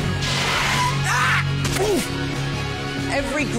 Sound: harry yells then grunts

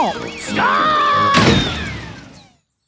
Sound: thuds

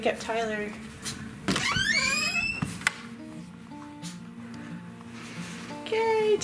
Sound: door creaking; light switch clicking

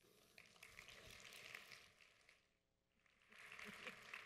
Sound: audience applauds

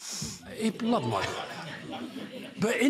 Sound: laughter

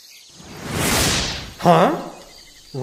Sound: woosh

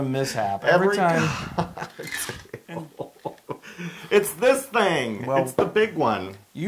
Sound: laugh

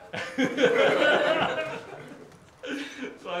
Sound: laughter

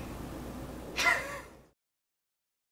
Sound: laughs

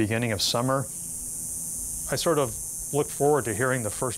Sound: cicadas buzzing

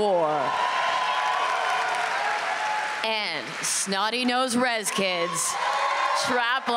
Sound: applause

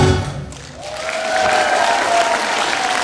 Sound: applause

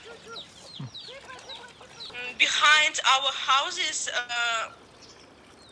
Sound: lady on phone

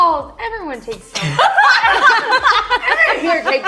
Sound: laughs

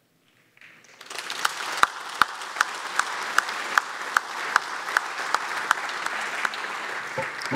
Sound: applause

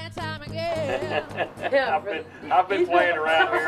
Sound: laughs

